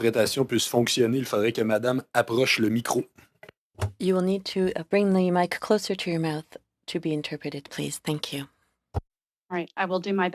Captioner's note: speaking FRENCH